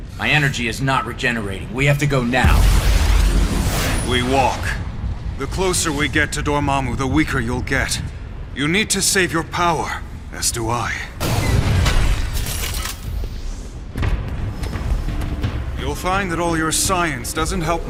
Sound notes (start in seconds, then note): 11.4 thuds; 12.1 clangs